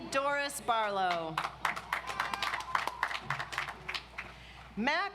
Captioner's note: audience applauds